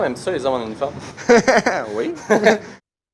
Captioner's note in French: Rire